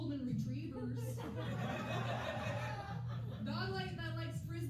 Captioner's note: laughter